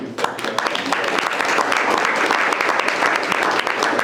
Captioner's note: group applauding